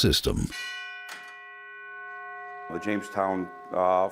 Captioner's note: bell ringing